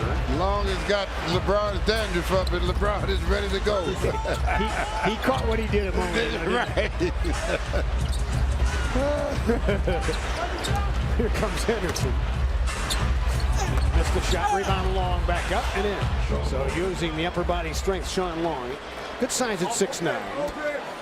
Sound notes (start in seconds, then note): 14.0 crowd noise